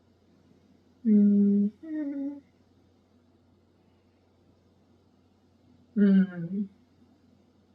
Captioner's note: hums